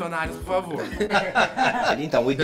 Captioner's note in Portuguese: risos